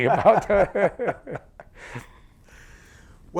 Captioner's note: laughter